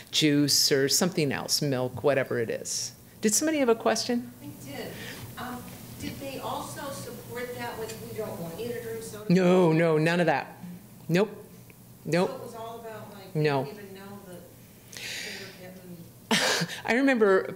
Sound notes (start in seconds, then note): 14.7 faintly speaking